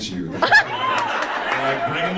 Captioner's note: audience laughs